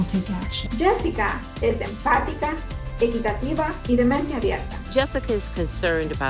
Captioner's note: speaking in foreign language